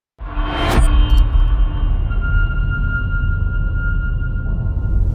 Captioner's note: dramatic sound